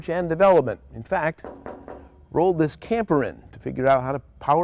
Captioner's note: knocking